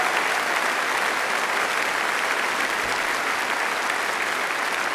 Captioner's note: applause